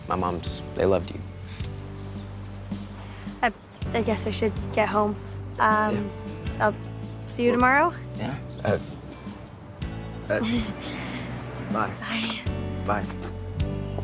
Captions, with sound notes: My moms, they loved you. - I guess I should get home. - Yeah. - I'll see you tomorrow? - Yeah. (nervously laughing) Bye. - Bye. - Bye.